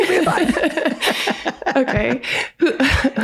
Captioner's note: all laugh